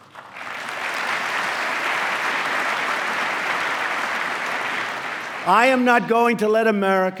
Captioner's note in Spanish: aplauso